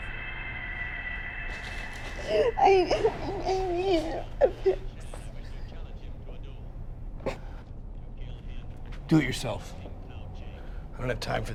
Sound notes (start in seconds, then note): 2.2 crying